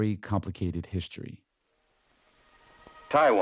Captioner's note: soundbite of archived recording